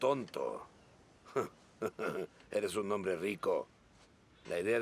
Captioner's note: chuckling